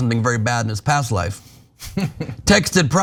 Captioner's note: laugh